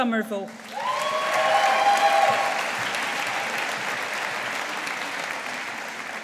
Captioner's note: audience applauding